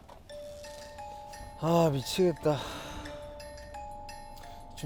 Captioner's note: just sighing away